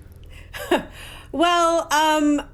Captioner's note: chuckles